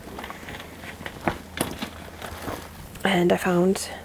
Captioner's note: rummaging noises